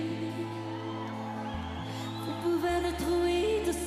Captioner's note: audience cheering